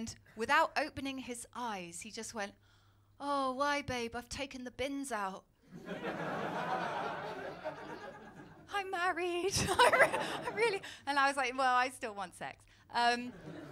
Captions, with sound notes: And without opening his eyes, he just went, ‘Oh, why, babe?' 'I’ve taken the bins out.’ [LAUGHTER] I’m married... I really... And I was like, well, I still want sex.